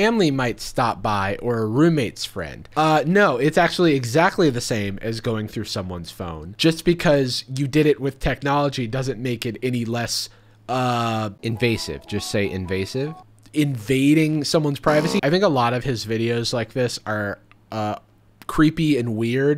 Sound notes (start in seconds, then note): 11.0 Jarvis Voiceover; 14.8 buzzing tone